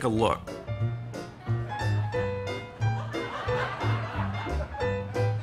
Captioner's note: laughter